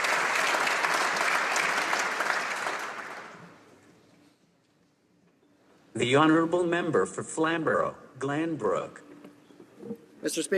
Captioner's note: some Applause